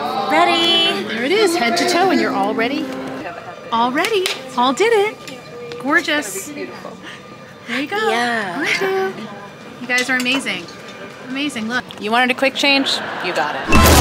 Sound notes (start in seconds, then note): 4.8 person claps hands; 13.7 exciting instrumental music